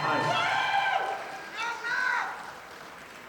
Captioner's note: audience applauding